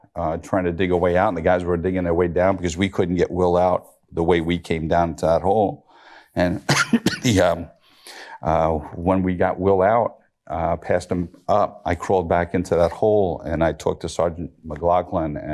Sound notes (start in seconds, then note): 6.6 coughs